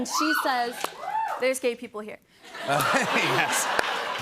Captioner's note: cheers and applause; laughter